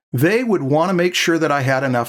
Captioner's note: none